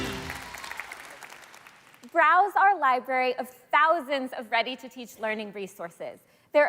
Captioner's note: applause